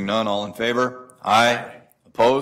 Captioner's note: multiple voices